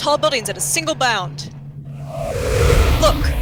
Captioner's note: loud rush of air